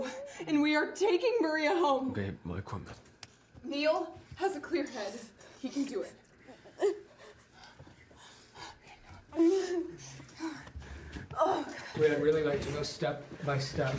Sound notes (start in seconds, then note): 6.3 Maria sobbing